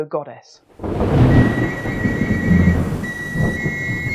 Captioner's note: thunder clap